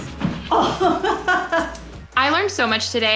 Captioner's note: chuckling